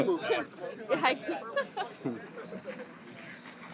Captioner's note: laughs